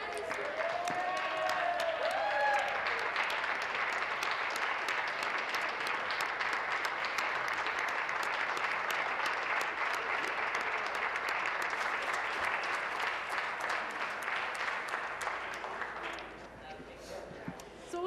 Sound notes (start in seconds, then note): 0.0 applause; 5.6 cheering and Applause